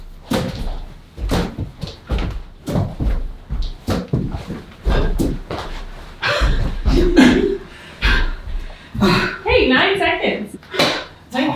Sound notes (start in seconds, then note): 1.2 head hits balloon; 6.8 laughing; 8.3 exhaling loudly